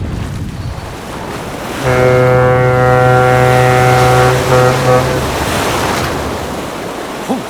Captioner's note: water slashing; horn blaring